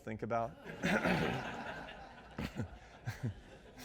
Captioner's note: audience laughs